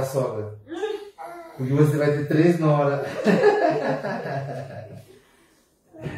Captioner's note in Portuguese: risos